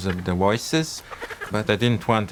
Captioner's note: bird vocalising